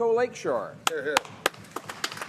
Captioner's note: applause